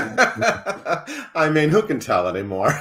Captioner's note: laughs